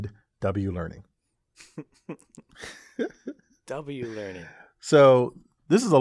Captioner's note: laugh